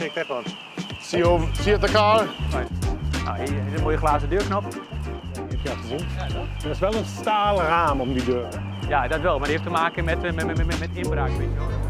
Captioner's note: speaking in Dutch